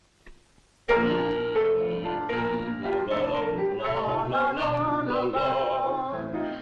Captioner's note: upbeat piano music; all vocalizing